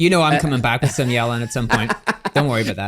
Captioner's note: laughing